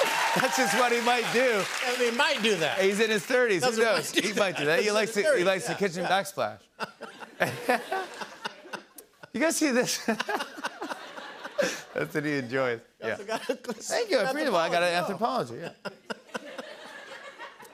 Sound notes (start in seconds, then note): 6.7 laughter; 15.4 laughter